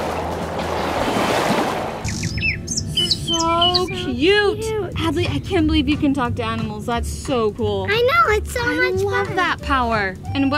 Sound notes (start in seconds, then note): 0.0 waves lapping; 2.0 bird tweeting